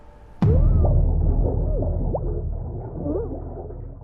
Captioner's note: muffled screaming